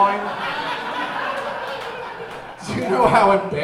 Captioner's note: audience laughing